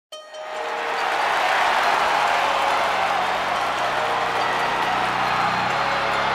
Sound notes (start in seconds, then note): 0.5 audience applause